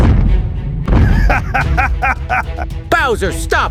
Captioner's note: Bowser Laughing